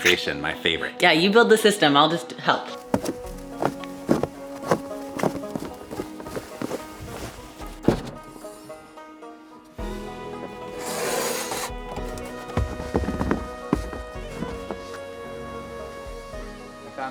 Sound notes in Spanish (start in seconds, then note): 2.7 nieve crujiendo; 9.4 música alegre